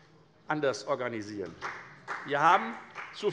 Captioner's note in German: Beifall